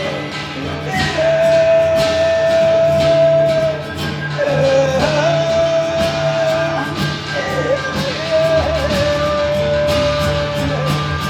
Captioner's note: humming